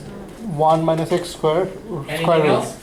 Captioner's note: voiceover